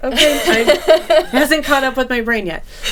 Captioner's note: laughing